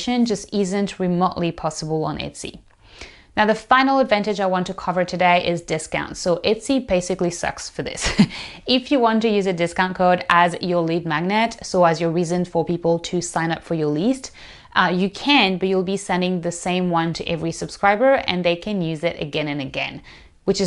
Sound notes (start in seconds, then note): 8.0 chuckles